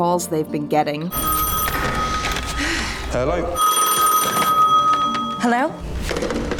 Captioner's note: phone ringing